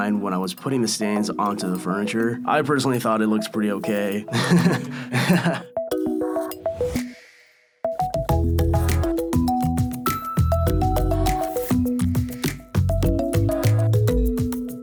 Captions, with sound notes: when I was putting the stains onto the furniture. I personally thought it looks pretty okay. (laughs) (whimsical music)